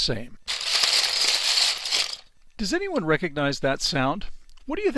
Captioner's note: sounds of blocks